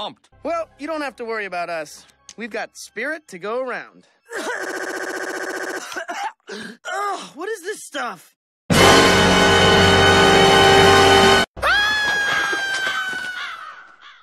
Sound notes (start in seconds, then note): 4.2 glitches out; 11.6 Dipper screams